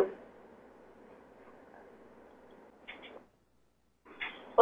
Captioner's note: pause